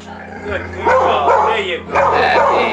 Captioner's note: dog barking